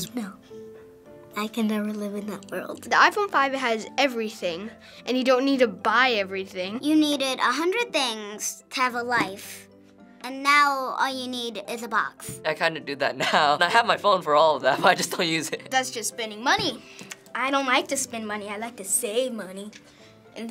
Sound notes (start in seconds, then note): 15.6 laughs